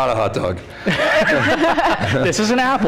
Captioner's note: laughter